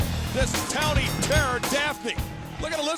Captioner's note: bell dings